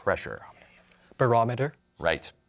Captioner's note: whispers